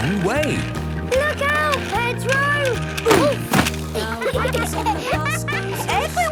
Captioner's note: laughter